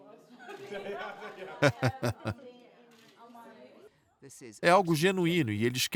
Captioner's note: both laughing